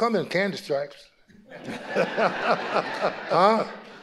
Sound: audience laughing

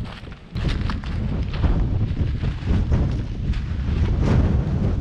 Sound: wind whooshing

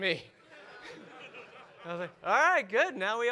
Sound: audience laugh

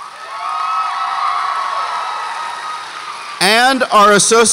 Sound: audience cheers

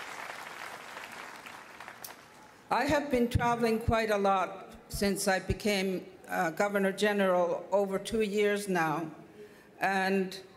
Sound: cheers and Applause

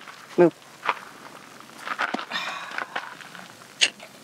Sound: sigh

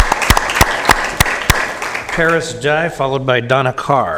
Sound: applause

